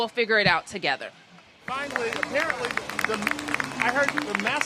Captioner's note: applause